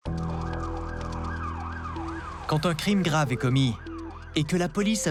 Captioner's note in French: sirènes